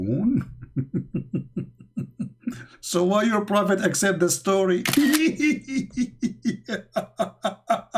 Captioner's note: Ketawa